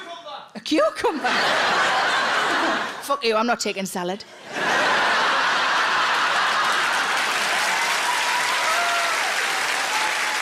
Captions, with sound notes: - Audience Member Cucumber. - A cucumber? (audience laughs) Fuck you, I'm not taking salad. (audience laughs) (audience applauds)